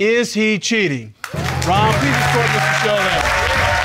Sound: all applauding

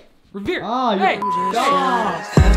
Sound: beep

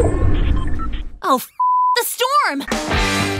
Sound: storm whirring; beep; upbeat rock music

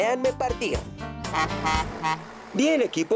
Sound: honk! Honk!

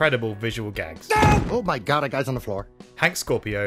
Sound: annoyed grunt

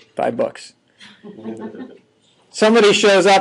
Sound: students chuckling

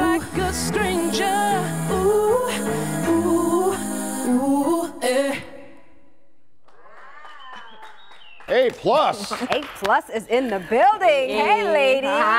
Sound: cheers and applause

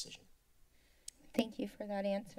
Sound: clicks tongue

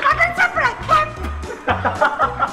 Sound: spitting; laughing

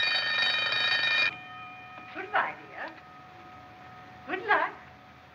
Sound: ringing Stops

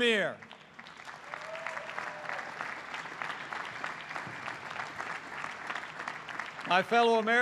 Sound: applause

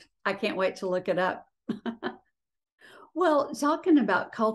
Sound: chuckles

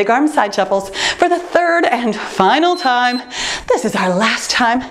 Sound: timer beeps

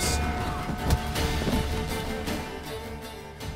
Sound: punch lands

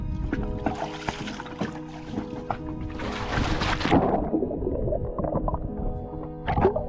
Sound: gentle airy music; water splashing

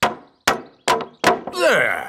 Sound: hammering

